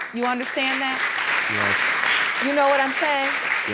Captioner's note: audience clapping